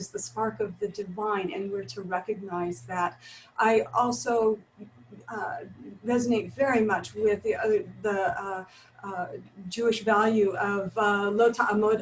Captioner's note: Hebrew